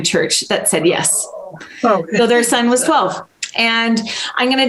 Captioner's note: groans